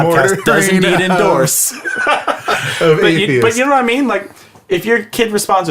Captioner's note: laughs